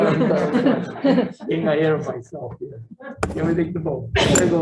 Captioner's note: overlapping chatter